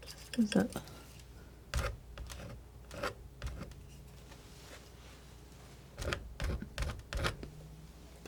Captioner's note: scratching